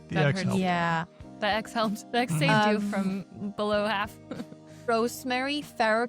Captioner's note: chuckles